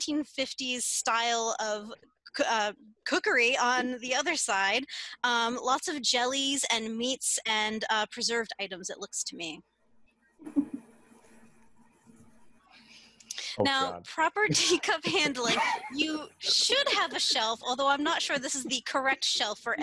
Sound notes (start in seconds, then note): 14.4 laughter